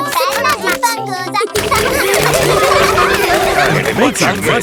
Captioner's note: children laughing